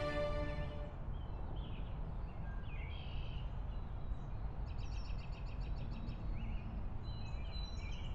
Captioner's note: ambient outdoor noise